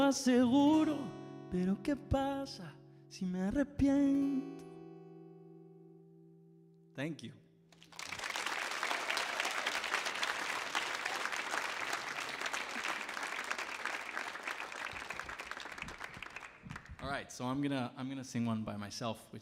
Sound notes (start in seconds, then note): 0.2 sings in Spanish; 7.8 audience applauds and cheers